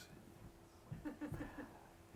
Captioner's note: laughs